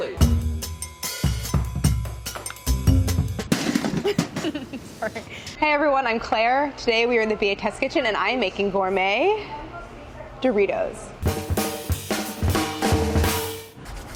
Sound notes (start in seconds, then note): 0.0 jazzy music; 3.5 box clatters; 4.0 laughs; 11.2 jazzy drum fill